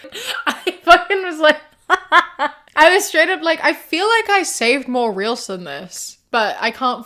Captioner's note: laughing